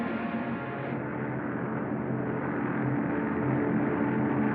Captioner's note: engines Droning